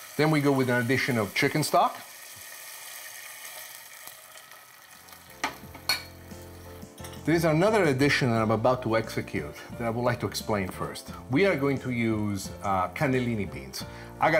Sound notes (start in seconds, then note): 3.6 sizzling